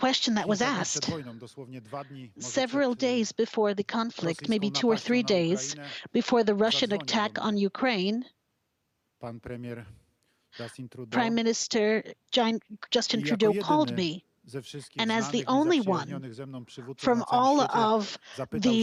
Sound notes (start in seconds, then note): 2.8 speaking Foreign Language